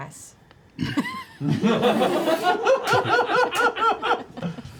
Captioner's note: laughter